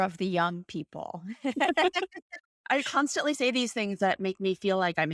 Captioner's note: laughter